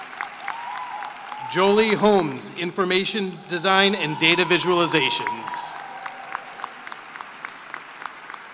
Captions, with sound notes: Jolie Holmes, Information, Design, and Data Visualizations. [CHEERING AND APPLAUSE]